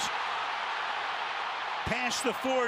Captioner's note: cheering